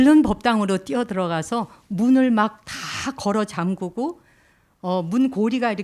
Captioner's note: speaking in Korean